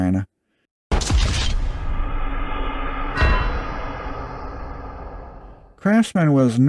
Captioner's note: GTA "Wasted" sound effect